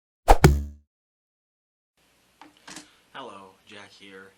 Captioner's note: sound of arrow being shot, then hitting a target